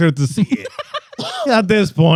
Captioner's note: laughing